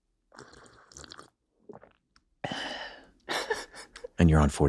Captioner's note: slurps noisily; sighs